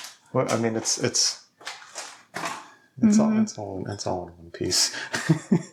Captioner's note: laughs